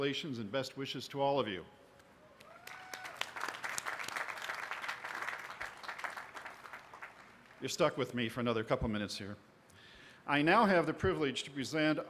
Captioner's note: applause